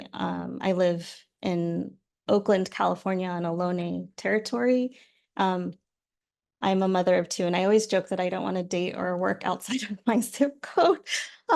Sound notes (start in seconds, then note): none